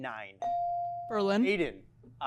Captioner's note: bell chiming